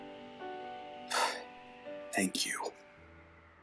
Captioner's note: sighs in relief